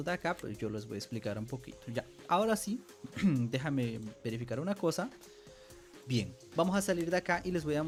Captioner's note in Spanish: carraspeo